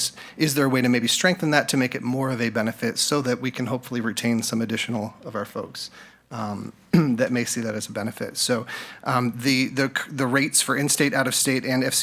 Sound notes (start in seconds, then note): 6.9 clears throat